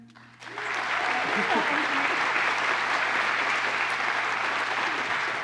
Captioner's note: applause